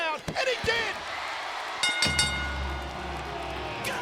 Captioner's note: bell ringing